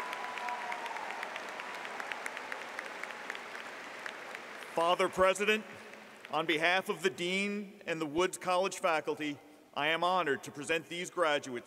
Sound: applause

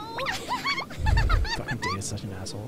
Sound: laughing

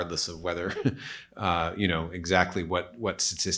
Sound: chuckles

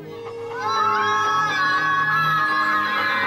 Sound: screaming

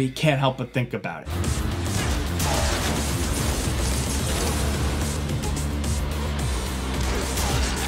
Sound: dramatic music; engine roaring

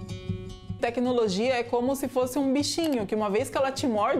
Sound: non-english speech

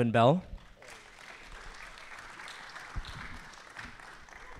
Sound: applause

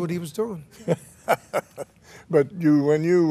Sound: laughing

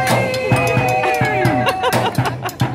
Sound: laughter

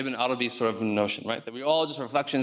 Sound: speaks in foreign language

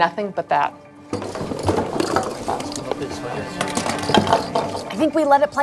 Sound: objects clattering

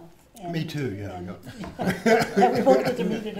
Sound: laughs

